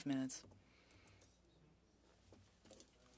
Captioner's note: speaking french